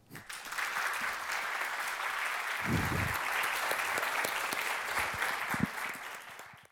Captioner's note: applause